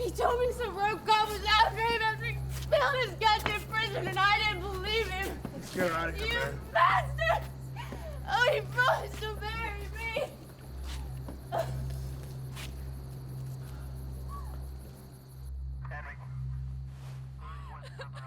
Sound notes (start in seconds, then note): 11.4 Nikki sobbing; 14.2 Vargas whistles; 17.4 Nikki sobbing